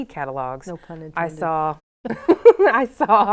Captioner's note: laughs